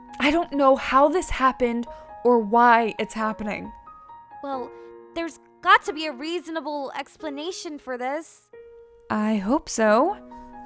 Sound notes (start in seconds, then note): none